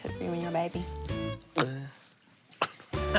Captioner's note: laughs; makes gulp noise